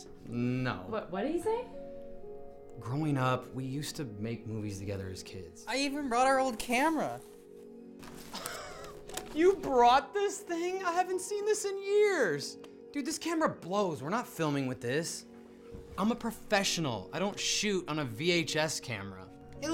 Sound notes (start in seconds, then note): 8.3 laugh